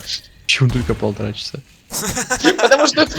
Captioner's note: laugh